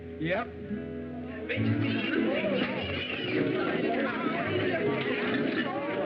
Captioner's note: chatter